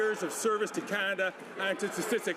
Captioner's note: some Applause